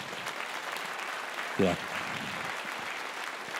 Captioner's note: applause